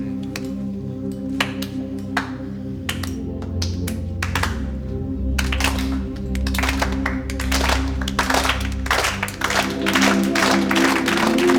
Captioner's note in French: aplaudissement